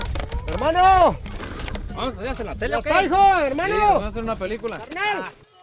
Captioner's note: speaks in foreign language